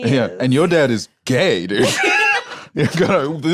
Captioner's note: laughs